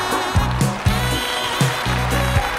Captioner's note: cheers and applause